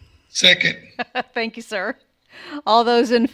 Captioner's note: laughing